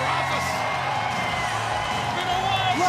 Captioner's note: crowd chatter